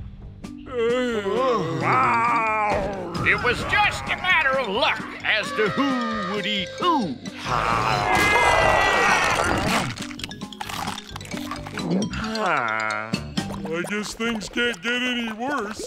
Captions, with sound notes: [groaning] [growling] it was just a matter of luck as to who would eat who. [screaming] [sighing] I guess things can't get any worse.